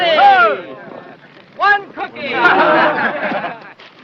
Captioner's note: all laugh